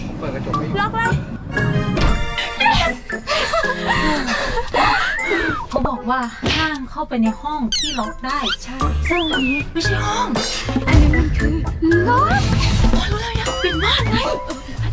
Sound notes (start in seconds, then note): 3.6 panting; 13.1 chuckles